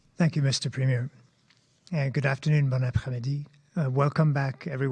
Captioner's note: speaking French